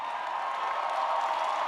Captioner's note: cheers and applause